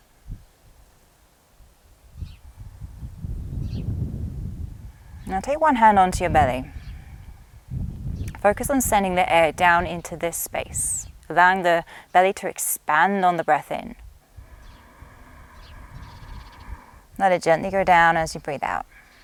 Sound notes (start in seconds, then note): 14.3 inhales deeply